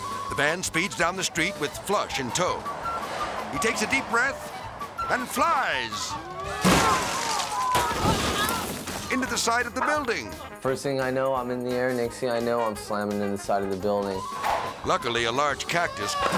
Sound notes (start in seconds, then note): 6.7 bike crashes; 6.7 onlookers shouting; 8.2 debris clatters